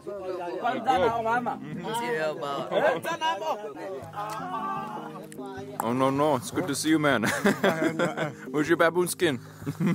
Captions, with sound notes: It's good. (speaking foreign language) No-no-no, it's good to see you, man. (laughs) Where's your baboon skin?